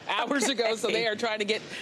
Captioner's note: laughter